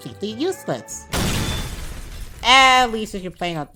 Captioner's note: explosion